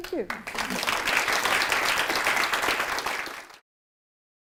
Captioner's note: applause